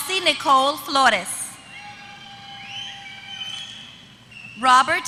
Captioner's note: applause